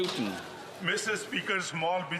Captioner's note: applause